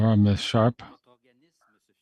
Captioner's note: speaking French